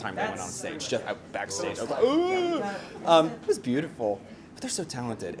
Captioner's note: crying